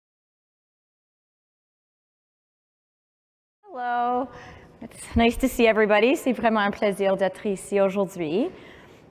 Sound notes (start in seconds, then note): 6.6 speaking french